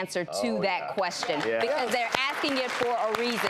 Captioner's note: audience applause